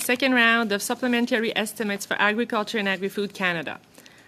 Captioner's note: speaking French